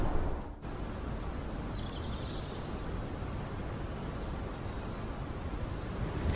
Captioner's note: wind